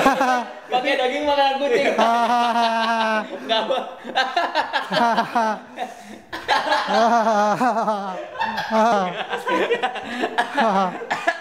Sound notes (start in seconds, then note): 3.4 even more laughters; 8.3 still laughters; 10.0 coughing